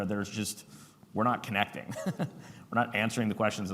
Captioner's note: chuckles